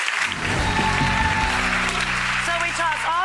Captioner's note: audience applauds; audience cheering